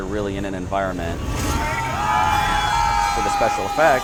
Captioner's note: guests cheering